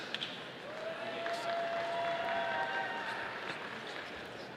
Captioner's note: audience applauding